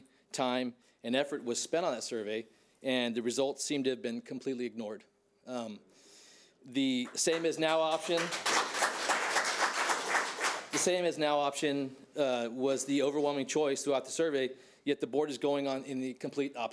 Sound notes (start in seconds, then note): 9.6 audience applauding